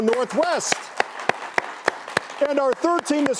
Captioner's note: audience clapping